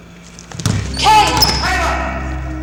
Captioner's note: thudding